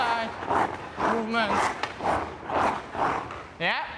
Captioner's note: skates scrape ice